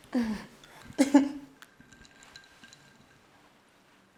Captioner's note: Holly chuckles